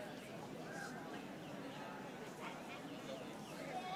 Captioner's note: audience chattering